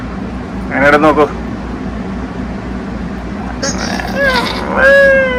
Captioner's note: makes a yucky face/sound!